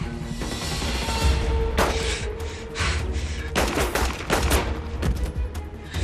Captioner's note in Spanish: Disparos